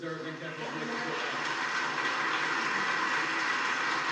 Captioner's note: applause in recording